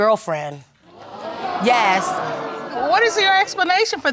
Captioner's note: audience gasps